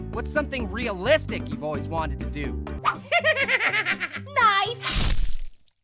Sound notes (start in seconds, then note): 2.9 laughing; 3.0 voiceover